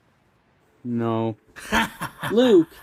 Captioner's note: Dethmetal laughs